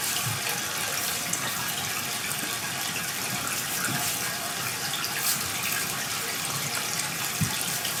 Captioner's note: water trickling continues